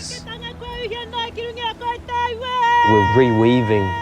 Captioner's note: woman greeting loudly in Māori